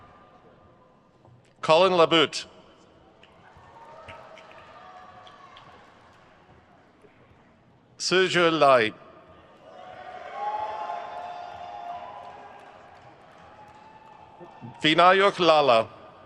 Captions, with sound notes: Collin LaButte. Sizhe Lai. (crowd cheers) Vinayak Lala.